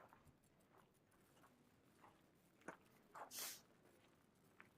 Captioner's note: gravel crunching